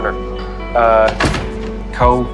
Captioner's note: door shuts